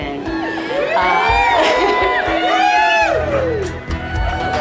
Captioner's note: people cheering